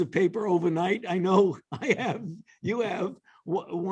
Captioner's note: laughter